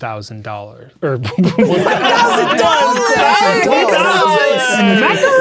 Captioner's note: laughing; players laughing